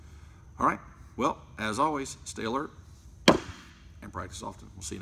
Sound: pounds fist on surface

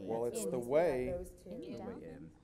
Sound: group chatters

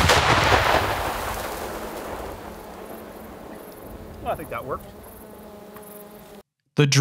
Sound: explosion

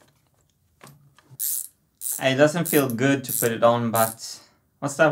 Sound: ratcheting

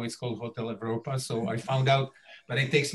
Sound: chuckling

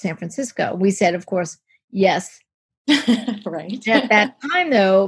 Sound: laughs

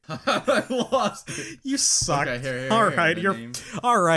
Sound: laughs

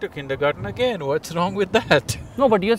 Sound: laughs

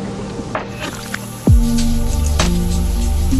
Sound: shower Water Running

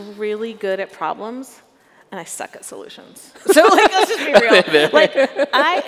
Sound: chuckles

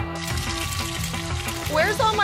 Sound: oil sizzling

